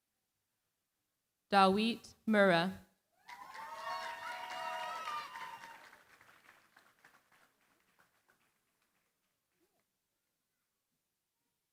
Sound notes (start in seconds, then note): 3.2 cheering, applause